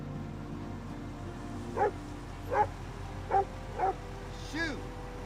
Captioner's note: barking